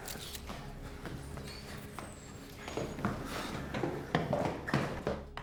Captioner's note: camera shutter clicking; feet clomping